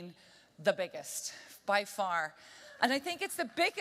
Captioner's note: applause